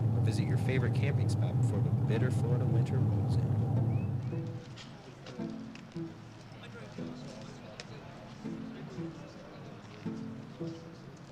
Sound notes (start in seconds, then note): 5.8 light instrumental music; 7.4 mourners chattering